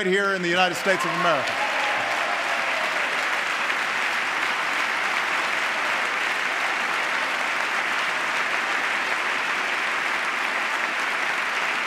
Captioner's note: applause